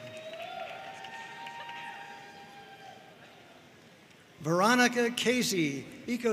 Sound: audience cheering and applauding

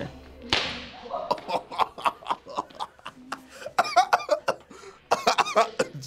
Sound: laughs

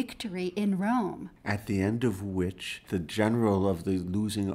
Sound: voiceover

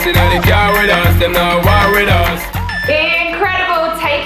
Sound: timer beeping

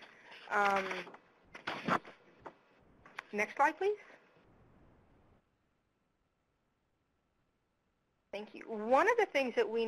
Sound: pause

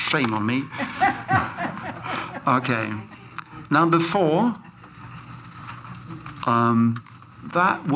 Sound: laughter

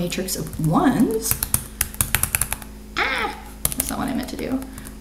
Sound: keyboard continues tapping

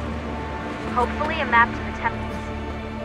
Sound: Lucy through radio

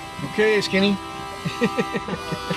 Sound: laughs; soft music

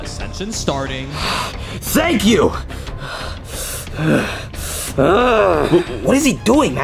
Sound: breathing intensely

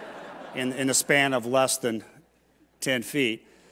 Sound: laughter

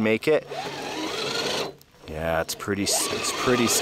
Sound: engine revving

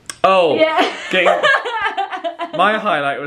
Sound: laughs

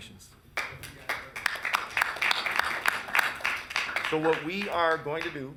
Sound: council members applauding

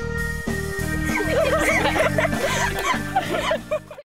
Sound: laughter

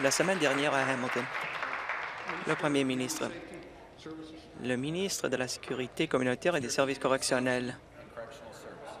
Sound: applause

